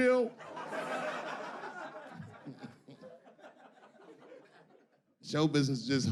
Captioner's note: audience laughing